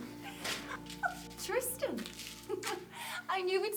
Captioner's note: chuckling